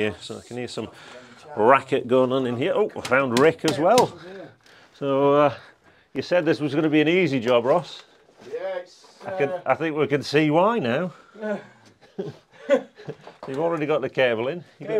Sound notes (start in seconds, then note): 3.0 hammer tapping; 11.4 both chuckling